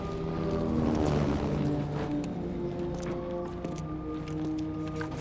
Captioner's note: helicopter & sirens